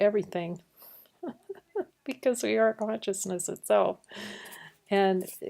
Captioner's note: laughing